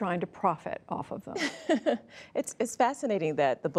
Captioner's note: laughter